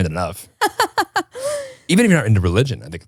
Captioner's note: laughs